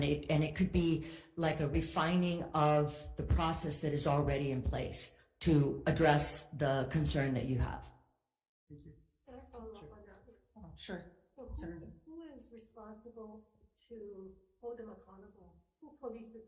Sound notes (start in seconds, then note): none